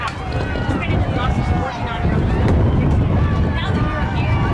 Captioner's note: wind blowing in microphone